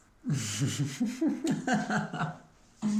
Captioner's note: laughing